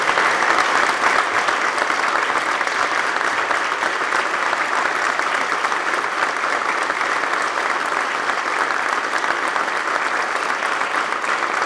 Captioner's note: applause